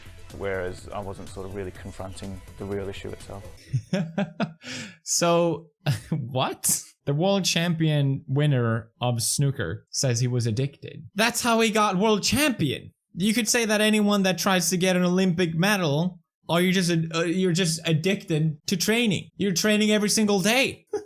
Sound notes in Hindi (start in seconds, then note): 3.6 हंसते हैं; 3.6 फिर हंसते हैं